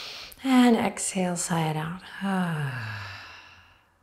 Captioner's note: sighs